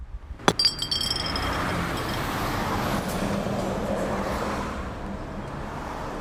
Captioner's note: bottle clanking; traffic rumbling